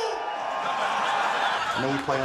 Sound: crowd laughs

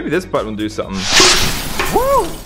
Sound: whooshing and crashing

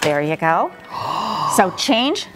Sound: gasps

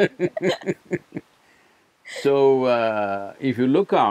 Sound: Prajakta laughs; both laugh

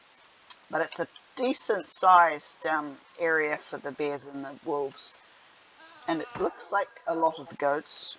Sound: chuckles

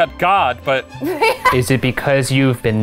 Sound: laughs

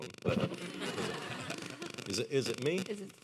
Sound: audience laughing

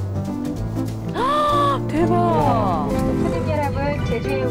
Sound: gasp

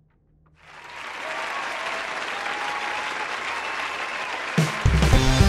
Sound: applause

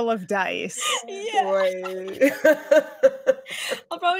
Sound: laughs

